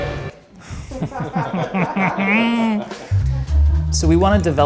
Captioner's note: and crew members laugh